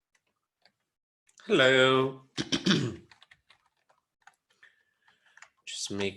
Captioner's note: clears throat